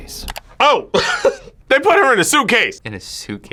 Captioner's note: laughs